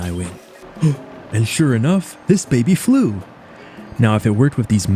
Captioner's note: gasps